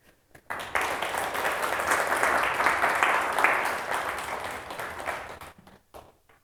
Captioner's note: applause